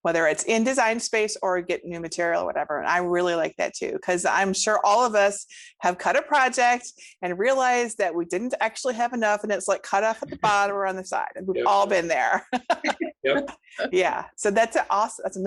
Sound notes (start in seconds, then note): 11.5 laughs